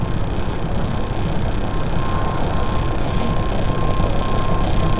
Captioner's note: breathing rapidly